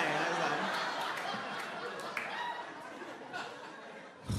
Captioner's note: laughing